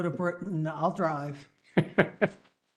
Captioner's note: laugh